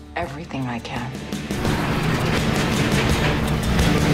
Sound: engine revving

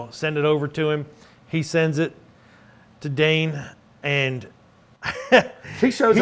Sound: chuckles

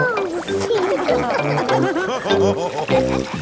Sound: all laughing

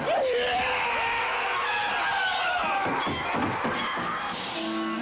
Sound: man screaming

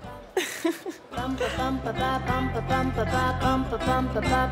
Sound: Lily giggles

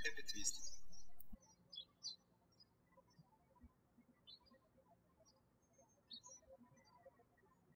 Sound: birds chirping

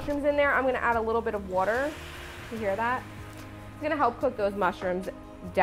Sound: pan sizzling

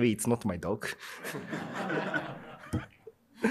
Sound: laughter

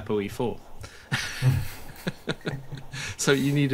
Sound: laughs

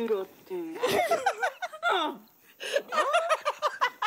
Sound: all laugh

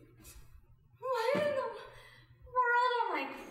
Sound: confused

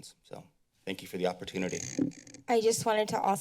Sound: mic noise

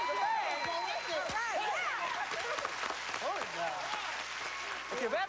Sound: cheers and applause

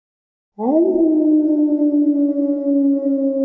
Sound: dog howling

